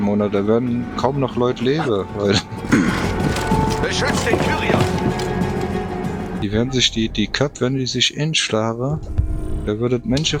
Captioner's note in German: räuspern